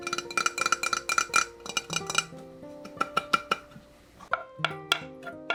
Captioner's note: sudden ASMR